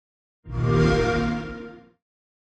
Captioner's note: xbox sound